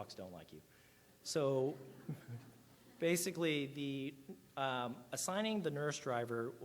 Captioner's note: audience laughs